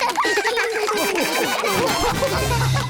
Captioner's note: all laugh